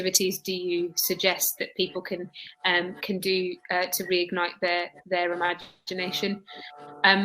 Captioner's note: erm